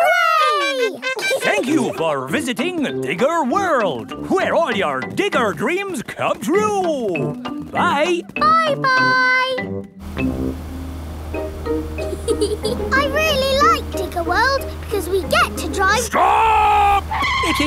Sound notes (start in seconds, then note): 12.0 george chuckling